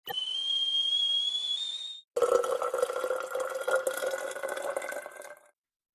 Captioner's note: sound of kettle boiling and water pouring